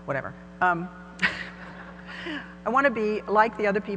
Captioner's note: laughter